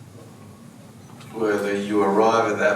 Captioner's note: none